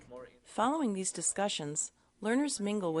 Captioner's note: voiceover